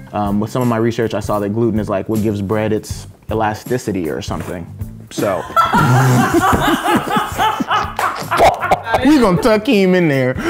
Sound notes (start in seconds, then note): 5.5 laughing hysterically